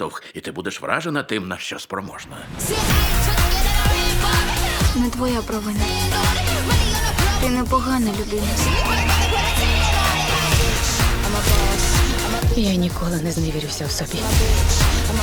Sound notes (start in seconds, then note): 2.8 energetic music playing; 8.6 high-pitched whistling